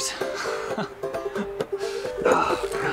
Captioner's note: laughing